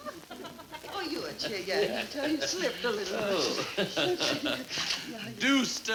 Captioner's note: fake foreign language